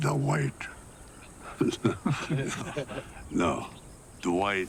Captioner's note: all giggling